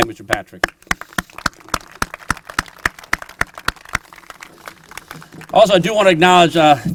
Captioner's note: applause